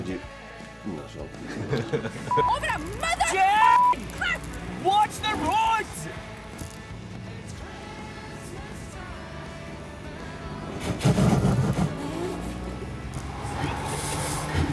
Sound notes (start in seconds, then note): 4.9 shouting; 9.9 loud scraping sounds of car hitting the road